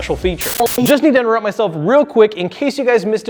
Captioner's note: white noise